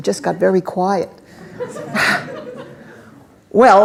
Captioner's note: laughter